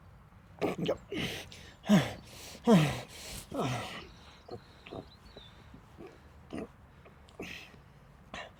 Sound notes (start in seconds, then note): 1.2 heavy breathing